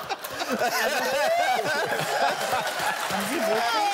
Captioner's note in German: anhaltendes Lachen